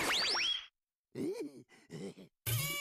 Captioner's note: chuckling